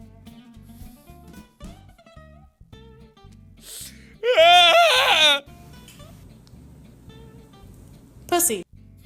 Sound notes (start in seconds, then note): 4.2 Markimoo wail